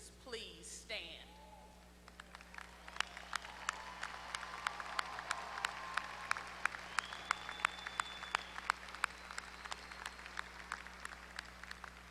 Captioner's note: applause